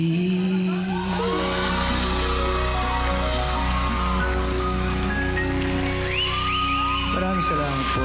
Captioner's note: audience cheering, applauding